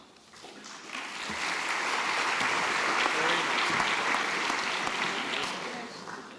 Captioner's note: applause